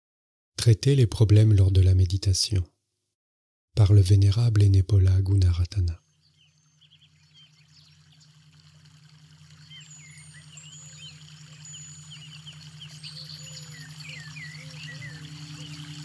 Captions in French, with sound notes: "Traiter les problèmes lors de la méditation" par le vénérable Henepola Gunaratana [Ambiance Fontaine/oiseaux des bois/Chimes]